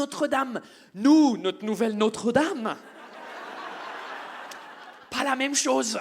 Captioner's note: audience laughs